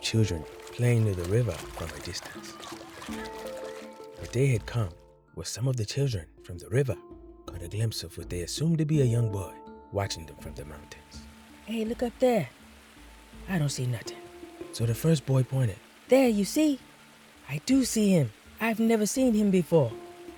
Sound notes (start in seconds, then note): 2.6 distant children & spalshing water; 11.2 water flowing